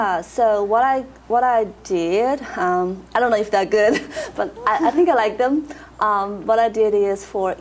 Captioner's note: laughs